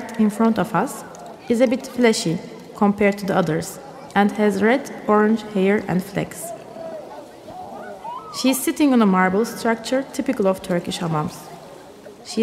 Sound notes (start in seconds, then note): none